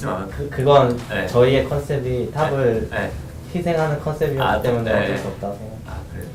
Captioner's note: laughs